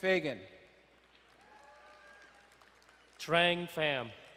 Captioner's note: crowd cheering and applauding